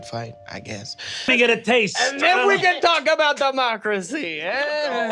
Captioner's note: exaggerated Italian accent